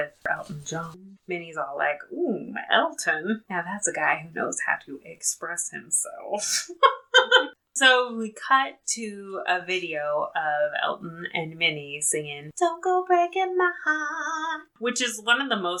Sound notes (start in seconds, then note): 6.4 laughs